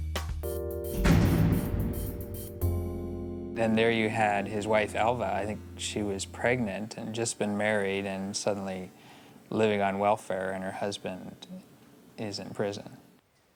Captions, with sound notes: (cell door clangs) - Then there you had his wife Elva. I think she was pregnant and just been married and suddenly living on welfare and her husband is in prison.